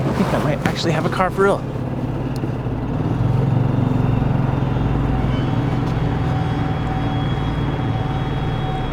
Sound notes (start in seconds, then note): 2.9 motor revving; 2.9 suspenseful music